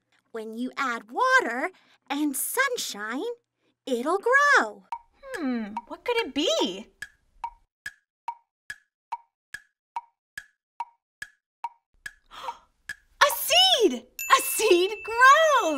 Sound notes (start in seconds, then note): 7.3 clock ticking; 12.2 gasps